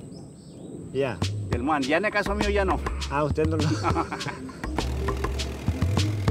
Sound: speaking in foreign language

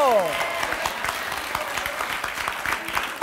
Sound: applause

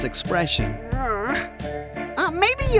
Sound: grunt

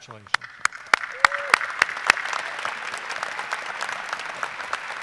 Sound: audience applauding

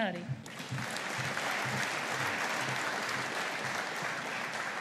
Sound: audience applauding

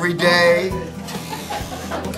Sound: laughter

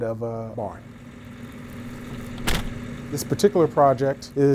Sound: door shuts

